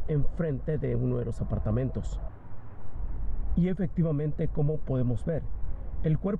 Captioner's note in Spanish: habla en ingés